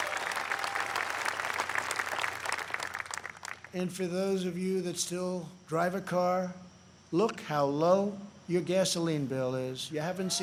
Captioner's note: applause